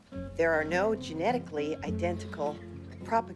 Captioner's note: none